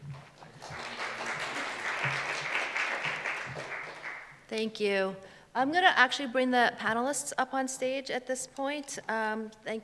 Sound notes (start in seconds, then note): 0.1 applause